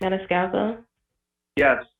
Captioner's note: no audible response